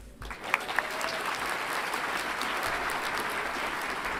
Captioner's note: audience applauds